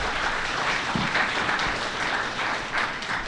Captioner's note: applause